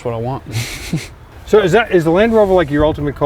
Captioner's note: laughs